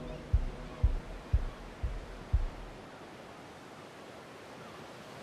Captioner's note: waves crashing